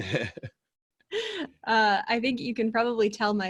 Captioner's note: laughing